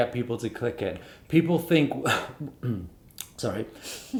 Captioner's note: coughing